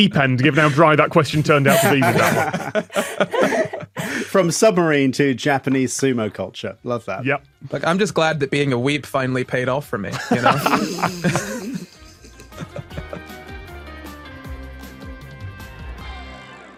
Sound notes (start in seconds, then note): 10.2 snorting and laughter